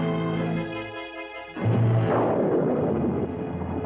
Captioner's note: thunder rumbling